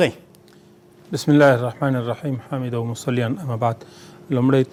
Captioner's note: arabic words